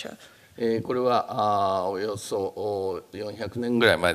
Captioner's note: speaking japanese